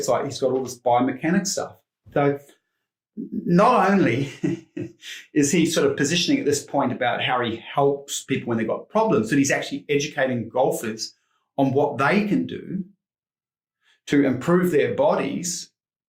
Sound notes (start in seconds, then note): 4.1 chuckles